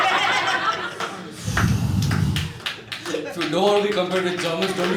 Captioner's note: exasperated exhale